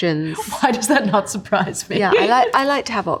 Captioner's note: laughing